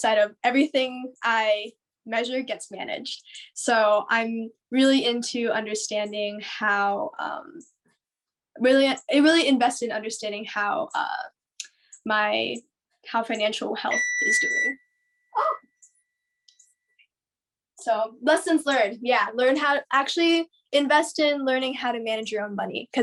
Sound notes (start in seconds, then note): 13.9 oven beeps